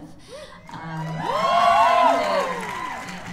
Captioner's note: cheers